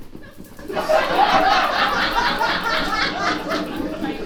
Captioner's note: audience laughs